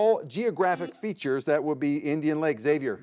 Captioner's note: buzzer beeps